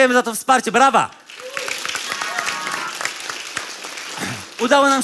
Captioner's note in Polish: oklaski publiczności